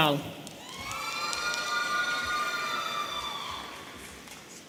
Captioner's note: audience cheering